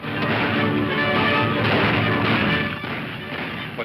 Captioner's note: guns firing